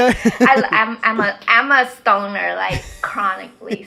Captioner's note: people laughing